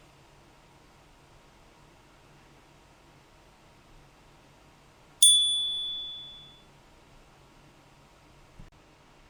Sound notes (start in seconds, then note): 5.2 chime